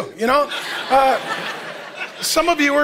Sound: congregation laughing

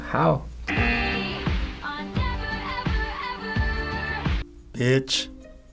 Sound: buzzer rings

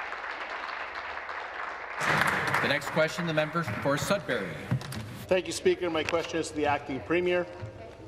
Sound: applause

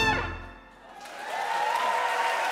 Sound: applause

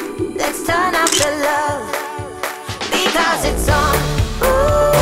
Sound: camera clicking

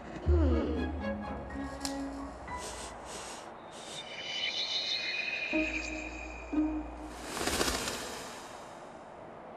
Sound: sniffing

